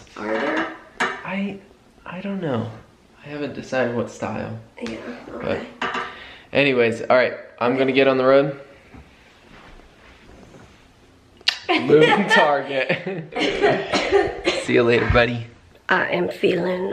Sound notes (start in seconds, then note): 11.4 smooch; 13.4 coughing